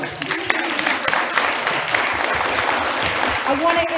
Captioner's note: audience applauds; overlapping chattering